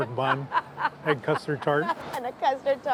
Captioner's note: laughs